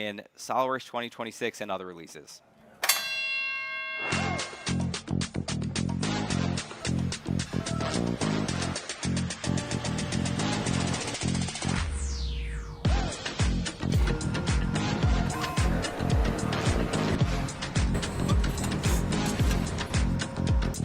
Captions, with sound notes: in SOLIDWORKS 2026 and other releases. (bell rings) (upbeat music) (machine whirring) (drill whirring) (machines whirring)